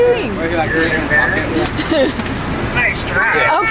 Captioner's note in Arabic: يضحك